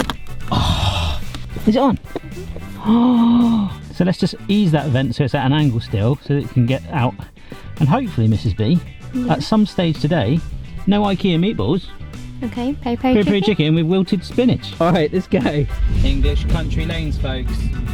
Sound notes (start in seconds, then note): 0.0 plastic clicking; 0.5 sighs heavily; 2.7 gasps